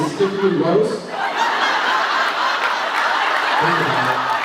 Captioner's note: laughs; laughs, applauds